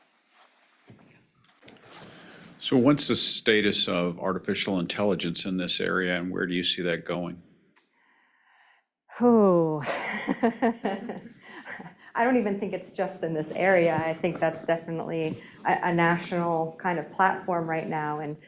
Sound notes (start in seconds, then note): 9.6 laughing